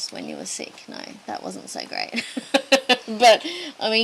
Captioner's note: laughs wryly